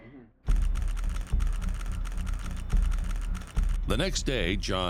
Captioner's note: rapid typing